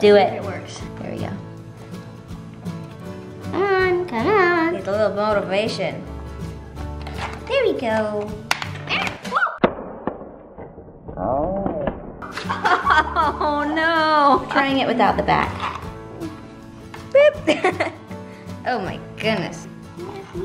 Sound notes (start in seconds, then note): 10.4 structure tumbling; 12.3 laughing; 17.1 laughs